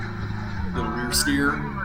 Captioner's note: engine revving